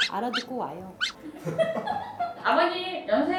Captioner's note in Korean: 웃음